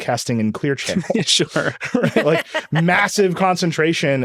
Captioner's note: laughing